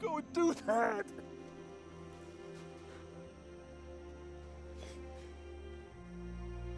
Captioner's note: crying